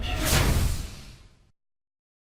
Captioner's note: logo swooshes